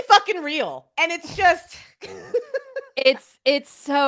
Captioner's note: laughs